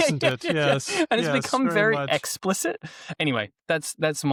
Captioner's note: laughs